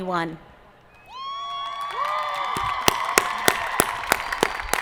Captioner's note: audience cheering